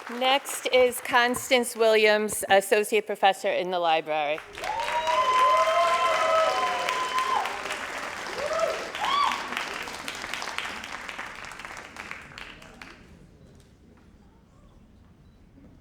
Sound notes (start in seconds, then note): 4.3 crowd cheering and applauding